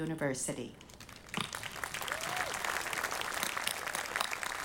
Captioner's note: audience applauding